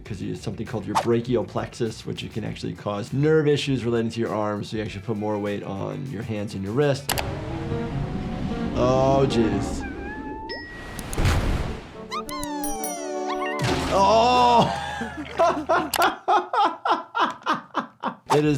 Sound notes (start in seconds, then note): 7.3 dramatic music; 9.8 giggles whimpers; 10.5 bell dings; 10.6 wave crashes; 11.7 triumphant music; 13.6 head crashes; 14.0 laughs